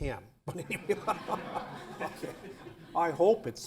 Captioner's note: laughter